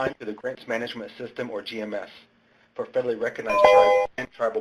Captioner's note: ding